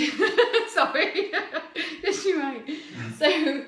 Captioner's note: laughs